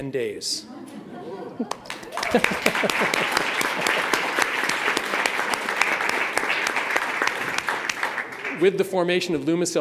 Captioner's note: applause